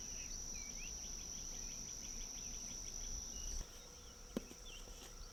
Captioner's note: birds chirping